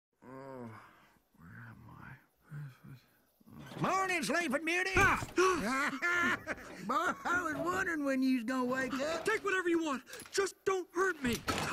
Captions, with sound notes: (groaning) - Where am I? - Morning sleeping beauty. - Uh, ah. (laughing) - I was wondering when you's gonna wake up. - Take whatever you want, just don't hurt me.